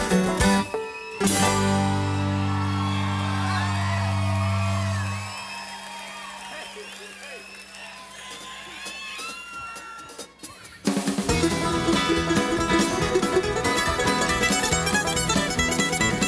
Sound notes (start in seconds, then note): 2.8 audience applauds; 2.8 audience cheers